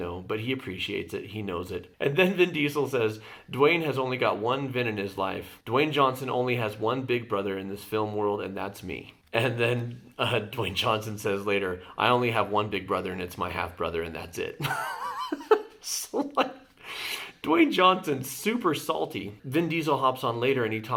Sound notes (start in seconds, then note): 14.6 laughs